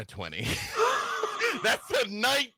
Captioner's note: gasps